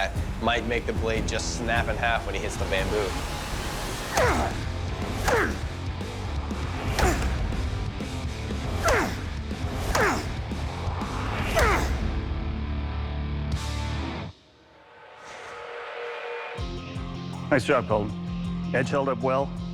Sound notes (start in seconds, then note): 4.9 grunting; 5.1 dramatic rock music playing; 14.7 tense music playing